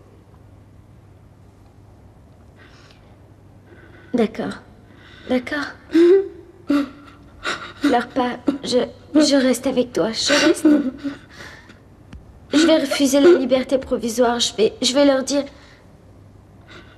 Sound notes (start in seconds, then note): 6.6 sobbing